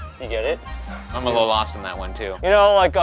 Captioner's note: none